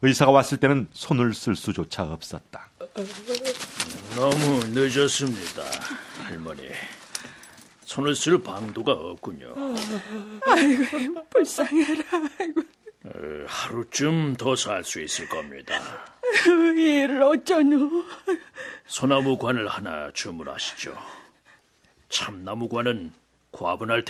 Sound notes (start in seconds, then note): 9.6 laughs